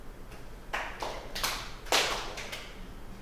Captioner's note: clapping